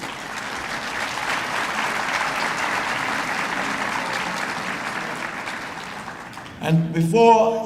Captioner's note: applause